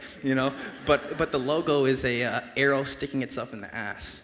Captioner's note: audience laughs